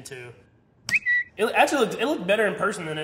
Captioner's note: bird chirping